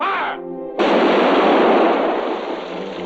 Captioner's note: cannon blasting